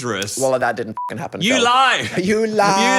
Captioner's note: beep